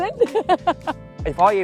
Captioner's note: laughter